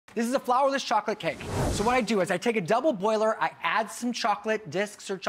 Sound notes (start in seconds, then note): 1.3 air whooshing